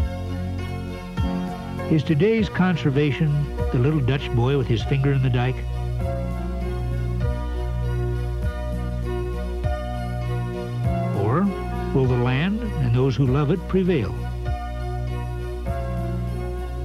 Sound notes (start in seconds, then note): none